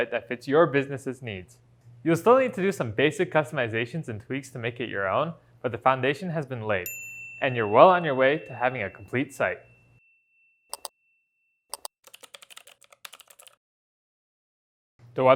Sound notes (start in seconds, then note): 11.7 mouse clicks; 11.7 keyboard typing